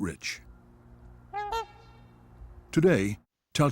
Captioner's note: swan honks